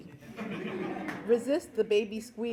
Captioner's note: laughing